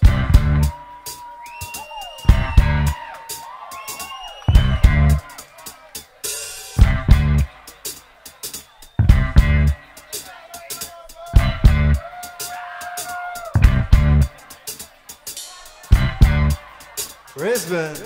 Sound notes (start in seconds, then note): 1.1 audience cheers